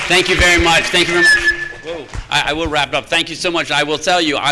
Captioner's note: microphone interference